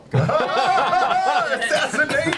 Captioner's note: all laugh